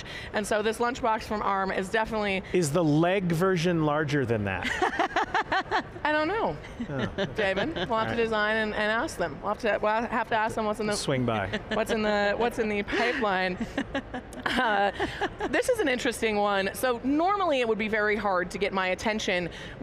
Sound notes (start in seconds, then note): 4.6 laughing; 11.4 laughing